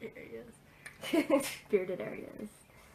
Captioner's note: laughs